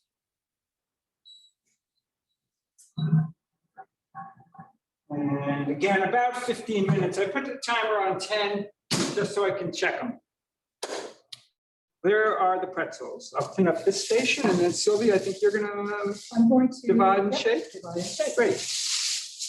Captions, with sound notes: (timer beeping) And again, about 15 minutes. I put the timer on 10 just so I can check them. There are the pretzels. I'll clean up this station, and then Sylvia, you're gonna divide and shape? - I'm going to- - Great.